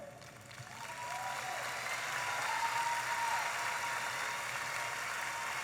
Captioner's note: audience applauding and cheering